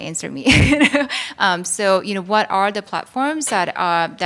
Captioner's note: laughs